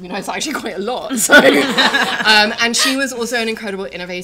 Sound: laughter

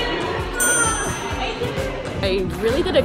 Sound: upbeat music; loud beep

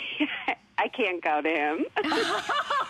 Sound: laughter

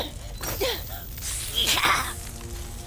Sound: grunting; hissing

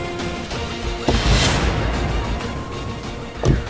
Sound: car door opens

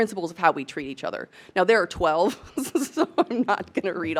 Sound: laughs

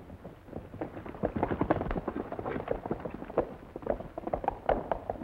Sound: horse hooves clomping

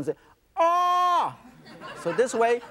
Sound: audience laughs

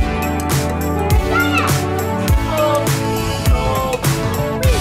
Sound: shouts

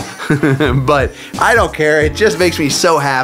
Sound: chuckles

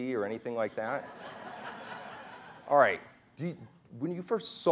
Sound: laughing

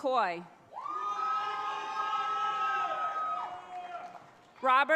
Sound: audience cheers

